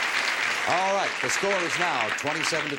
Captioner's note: audience applause